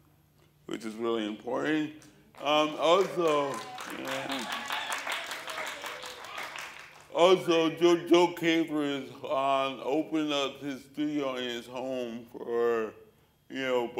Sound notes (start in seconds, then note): 2.3 applause, cheers